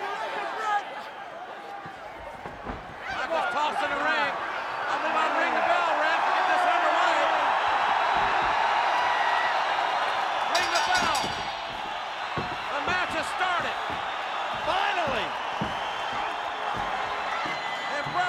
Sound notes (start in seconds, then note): 10.5 bell dings